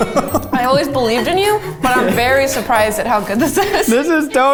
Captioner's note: laughing; laughs